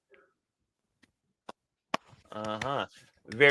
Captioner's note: claps